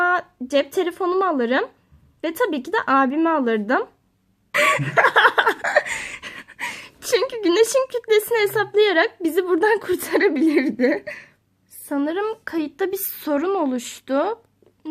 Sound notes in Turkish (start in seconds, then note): 4.6 ahhahahaa